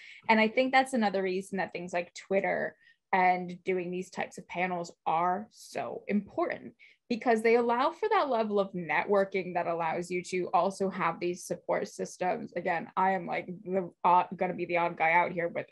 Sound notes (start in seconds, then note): none